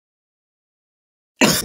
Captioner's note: cough